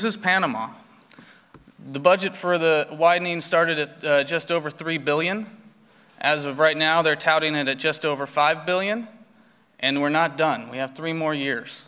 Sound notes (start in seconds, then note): none